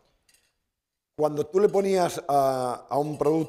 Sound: speaking spanish

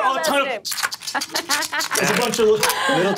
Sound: imitates guns cocking

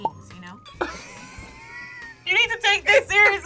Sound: both laugh

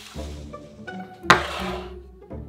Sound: bowl sliding

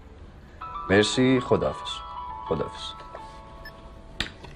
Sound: mobile ringing; hnag up click

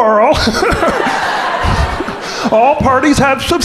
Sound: crowd laughing

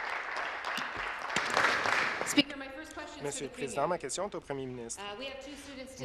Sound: applause

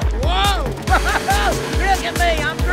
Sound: laughs

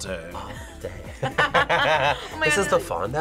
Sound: both laugh

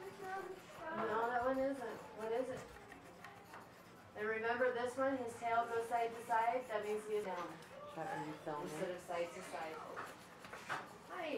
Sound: background classroom chatter

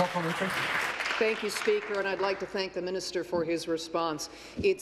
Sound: applause

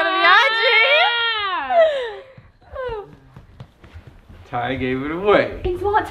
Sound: grunts

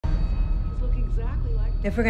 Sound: tv playing

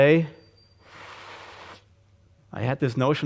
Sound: gusty inhalation

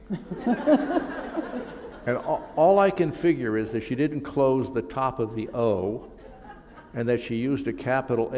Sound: laughter

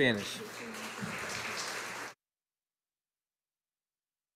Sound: audience applauding

